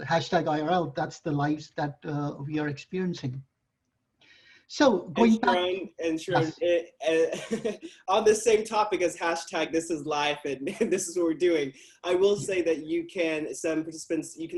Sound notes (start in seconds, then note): 5.1 murmurs